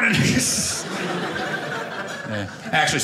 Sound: audience laughing

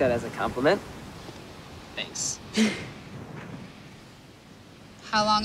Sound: laughs

